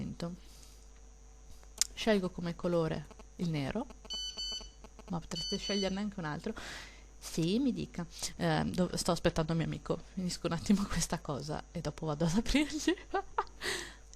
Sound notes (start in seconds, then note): 3.9 phone rings